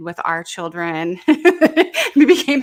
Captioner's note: presenter laughing